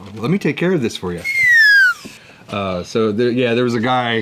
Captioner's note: downward whistle slide